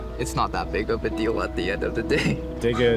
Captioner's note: chuckling